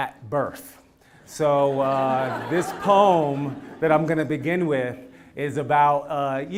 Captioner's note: laugh